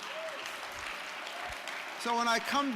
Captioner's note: audience applause